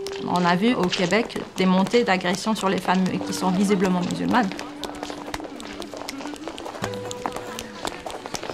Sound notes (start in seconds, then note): 5.4 women talking, laughing